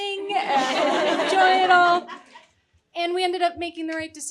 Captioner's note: audience chuckling